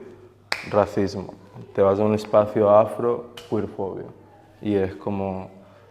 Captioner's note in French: clap; clap